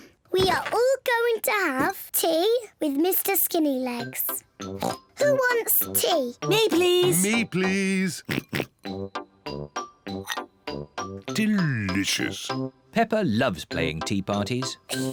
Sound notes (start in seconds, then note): 4.7 oinks; 8.2 oinks